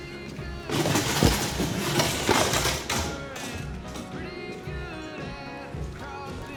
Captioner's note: stool clatters; upbeat country music